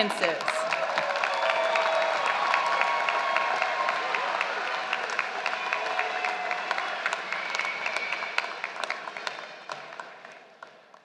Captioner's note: applause